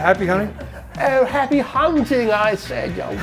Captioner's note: laughing